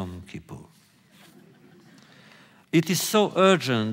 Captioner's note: laughter